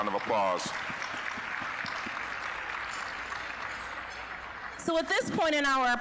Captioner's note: applause